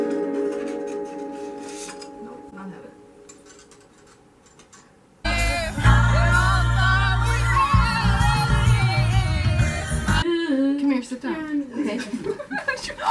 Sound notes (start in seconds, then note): 10.1 humming song; 11.7 laughter